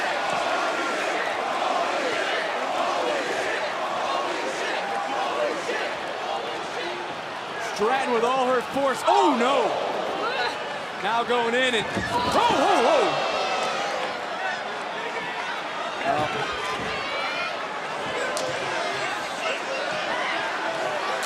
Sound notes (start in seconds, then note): 4.4 crowd chanting